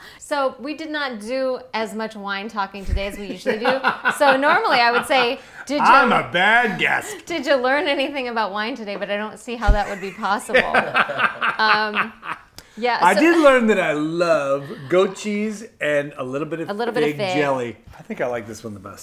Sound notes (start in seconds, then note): 9.8 laughing